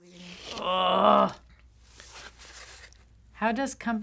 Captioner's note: groaning